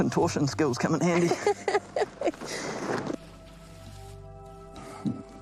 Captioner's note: laughs